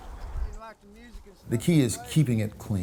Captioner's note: distant chattering